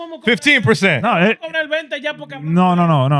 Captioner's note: speaking In Foreign Language